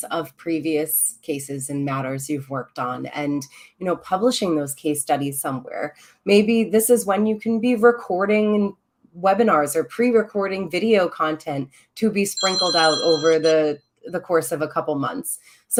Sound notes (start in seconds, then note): 12.4 phone ringing